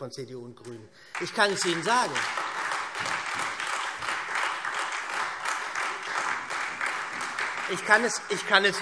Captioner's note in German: Beifall